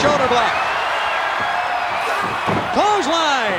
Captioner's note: audience cheering